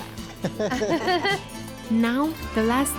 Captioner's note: laughter